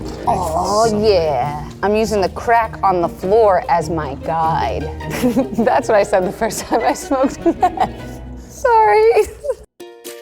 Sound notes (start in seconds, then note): 6.2 laughs; 10.0 upbeat music